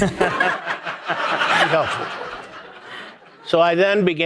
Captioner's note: audience laughing